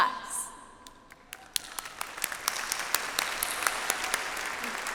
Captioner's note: audience applauds